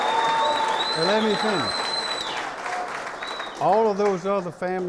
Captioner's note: clapping